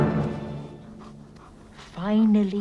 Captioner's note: Beast panting